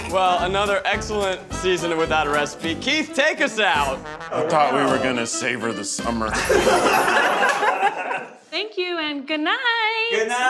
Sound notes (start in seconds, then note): 6.3 laughing